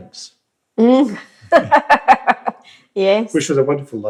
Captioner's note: laughs